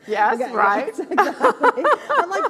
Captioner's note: laughs